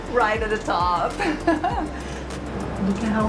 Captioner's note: laughs